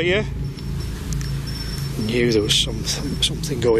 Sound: device beeps

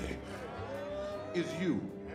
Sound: audience jeers

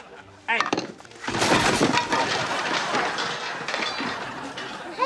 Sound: clanging

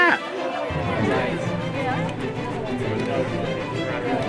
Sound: crowd chatters

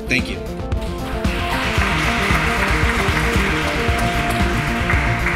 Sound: applauding; upbeat music

